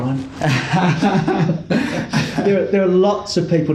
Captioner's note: both laugh